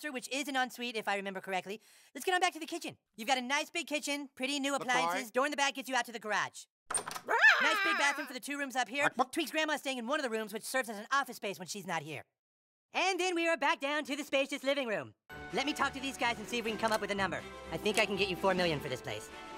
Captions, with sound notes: Which is an en suite, if I remember correctly. Let's get on back to the kitchen... - You've got a nice big kitchen. Pretty new appliances. Door in the back gets you out to the garage. - LaCroix! [Door opens] - Aaargh! - Nice, big bathroom for the two rooms up here. Tweek's grandma is staying in one of the rooms, which serves as an office space when she's not here. - And then we are back down to the spacious living room! Let me talk to these guys and see if we can come up with a number. I think I can get you four million for this place.